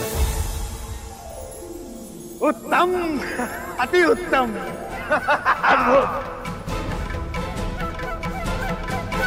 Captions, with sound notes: Exquisite! - [laughs] - Wonderful! [suspenseful music playing]